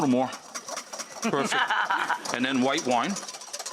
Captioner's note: laughing